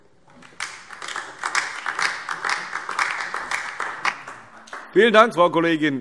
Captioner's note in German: Beifall DIE LINKE